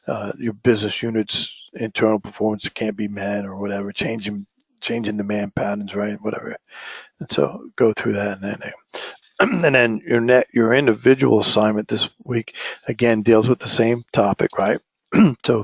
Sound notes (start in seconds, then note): 9.4 cough